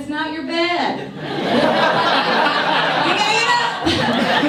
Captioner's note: audience laughs